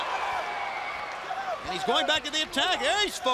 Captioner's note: crowd cheering